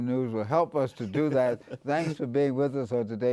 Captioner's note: laughs